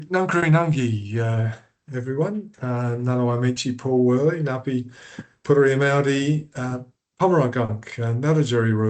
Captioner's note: Speaking in Ngarrindjeri